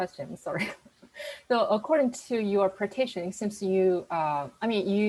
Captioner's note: chuckles